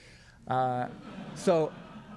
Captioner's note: crowd laughs